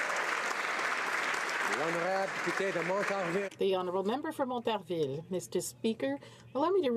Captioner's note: applause